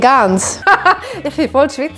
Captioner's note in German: lacht